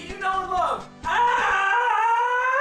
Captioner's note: nondescript screaming